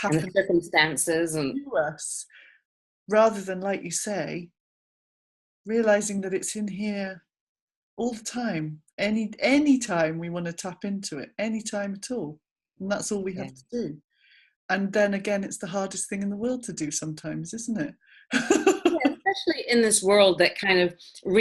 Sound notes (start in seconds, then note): 18.4 laughs